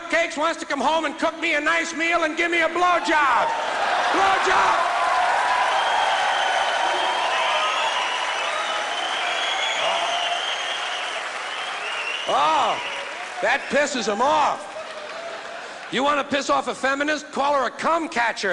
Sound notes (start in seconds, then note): 6.3 crowd Cheering